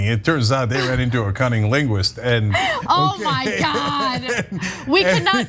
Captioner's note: laugh